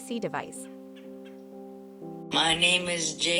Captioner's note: birds chirping